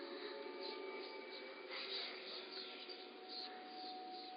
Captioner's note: voices chanting